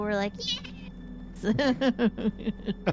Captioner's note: laughs